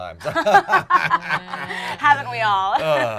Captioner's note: laughter